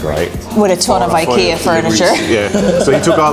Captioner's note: laughs